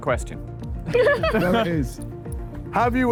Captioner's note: Sidemen laugh